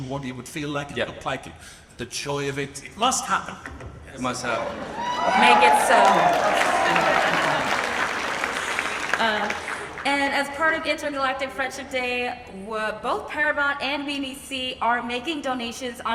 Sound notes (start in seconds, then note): 4.5 laughs; 7.9 audience applauds